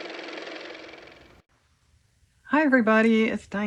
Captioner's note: car motor